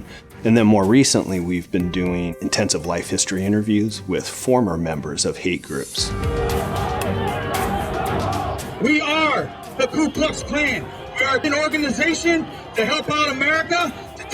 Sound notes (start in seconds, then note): 6.2 crowd chanting; 8.8 protester on speaker